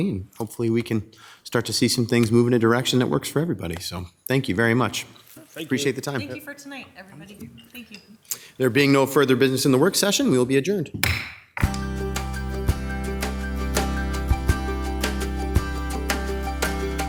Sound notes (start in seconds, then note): 11.0 gavel bangs; 11.6 light music